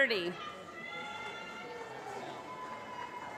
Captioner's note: applause